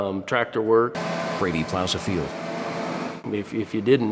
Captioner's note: engine humming